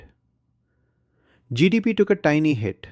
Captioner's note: pause